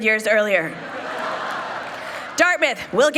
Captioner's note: people laughing